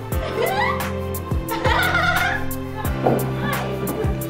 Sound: giggling

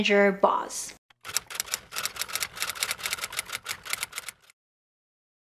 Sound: typewriter clicking

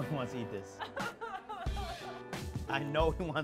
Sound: laughs

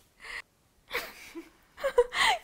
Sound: laughs again

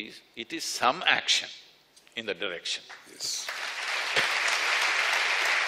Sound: applause

